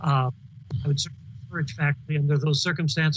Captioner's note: voice cuts out